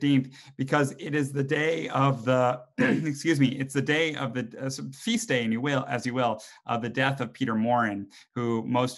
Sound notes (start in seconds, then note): 2.7 coughs